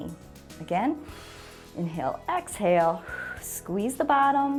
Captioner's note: exhales